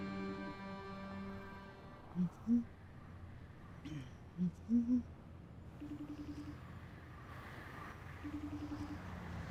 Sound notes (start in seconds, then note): 3.0 phone ringing; 4.4 humming